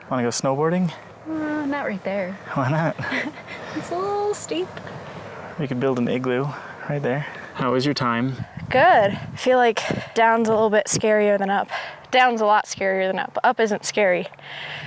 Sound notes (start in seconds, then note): 2.7 laughing